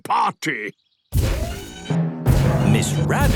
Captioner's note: thudding, mechanical whirring